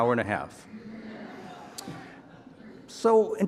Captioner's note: audience laughing